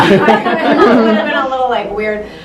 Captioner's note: laugher drowns out speaker